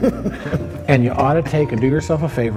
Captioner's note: laughs